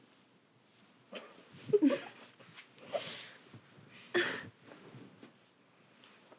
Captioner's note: Kimberly and Bethany giggle